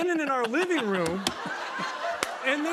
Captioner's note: laughter